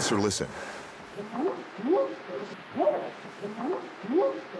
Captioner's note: whooping sound